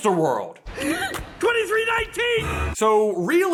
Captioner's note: gasp!